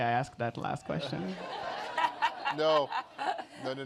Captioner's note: laughter